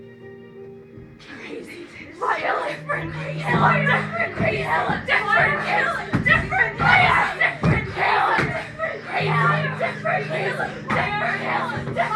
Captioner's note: overlapping yelling